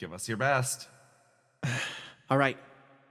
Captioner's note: sigh